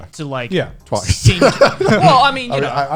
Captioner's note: laughing